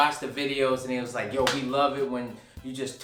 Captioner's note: hands clap